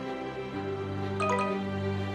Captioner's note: notification Sound